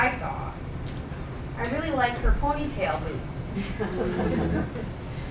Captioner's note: laughing